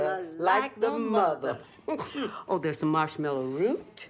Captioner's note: both chuckling